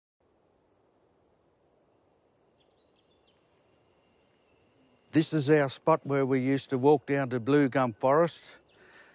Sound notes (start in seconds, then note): 0.1 leaves rustle; 2.4 birds chirp